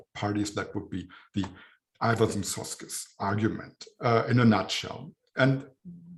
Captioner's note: german